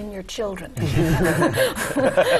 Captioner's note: laugh